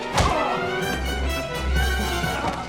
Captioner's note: grunting; giggling